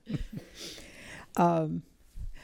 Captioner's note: laughter